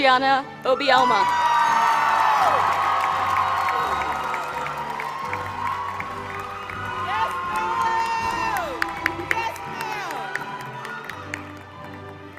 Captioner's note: applause